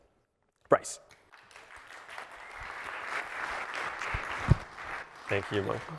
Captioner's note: applause